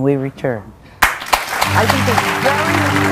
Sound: audience applauds

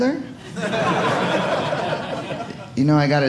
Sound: audience laughing

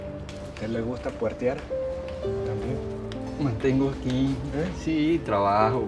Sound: speaking in foreign language

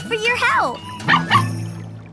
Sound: barking

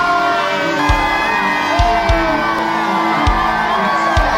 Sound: crowd cheering

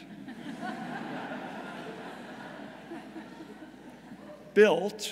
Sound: audience laughing

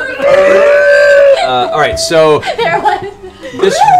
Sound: laughs

